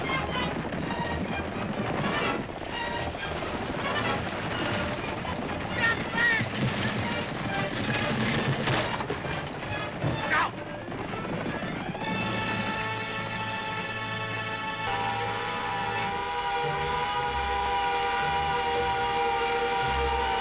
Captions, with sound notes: (perilous music) - [Crash] Jump back! - Look out! (Juggernaut siren wailing)